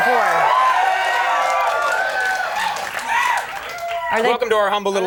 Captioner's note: audience cheering